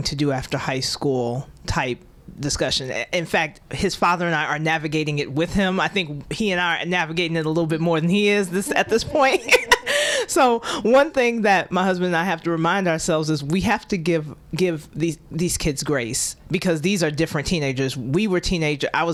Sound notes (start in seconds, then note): 8.6 laughter